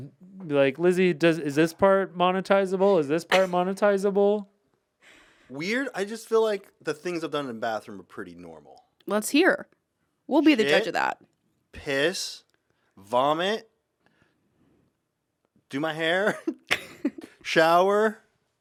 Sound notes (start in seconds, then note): 16.6 laughs